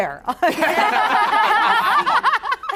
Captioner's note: laughter